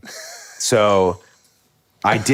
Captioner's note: Finn laughs